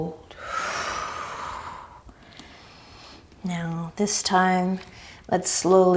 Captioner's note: deep breaths